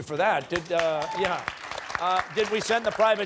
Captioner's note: cheers and applause